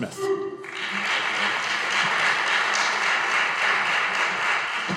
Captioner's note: audience applauding